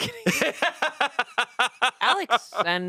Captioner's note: laughs